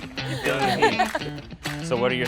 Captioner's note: laughing